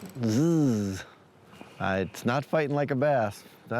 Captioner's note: imitates reel whirring; laughs